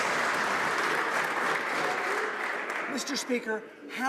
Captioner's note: some Applause